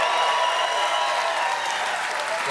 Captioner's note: cheers and applause